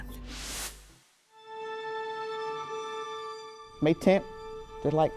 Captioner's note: transition whooshes